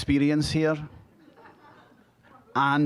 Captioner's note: audience chuckling